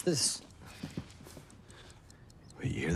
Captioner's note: ticking